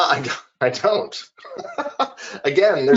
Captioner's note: laughing